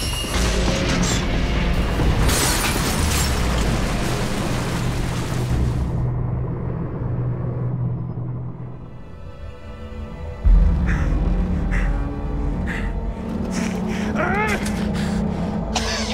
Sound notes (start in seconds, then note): 9.9 pensive music; 11.6 groaning